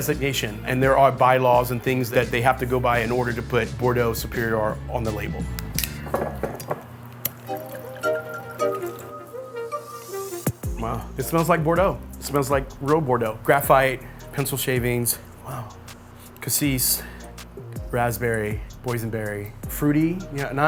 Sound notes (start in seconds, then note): 5.8 knife clinking; 5.8 bottle clinking